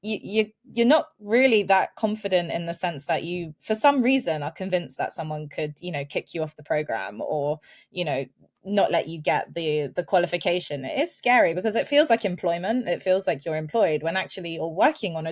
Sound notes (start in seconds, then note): none